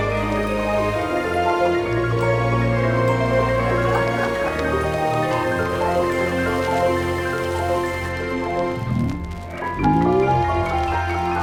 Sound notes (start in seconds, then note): 4.2 people laughing; 7.0 dramatic music